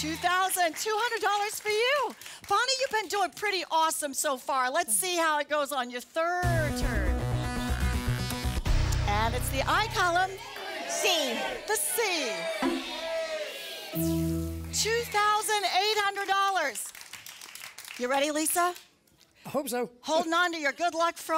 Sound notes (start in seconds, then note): 16.7 applause